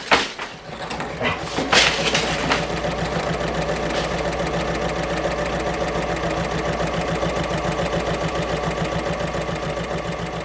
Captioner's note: sewing Machine Sounds